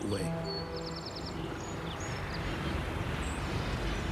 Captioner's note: birds chirping